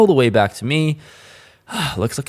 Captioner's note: sigh